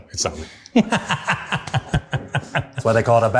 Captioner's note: laughing